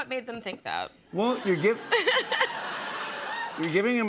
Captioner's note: laughter